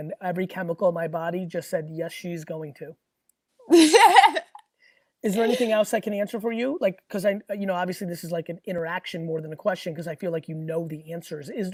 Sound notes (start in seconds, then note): 5.3 laughs